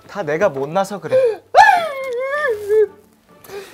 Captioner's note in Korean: 꺼이꺼이